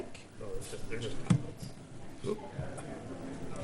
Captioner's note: murmurs